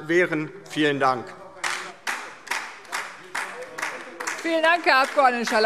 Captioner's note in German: Beifall DIE LINKE